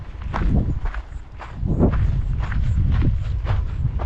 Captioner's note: wind blowing